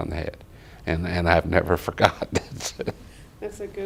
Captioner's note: laughs